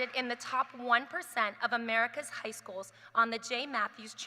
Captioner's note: applause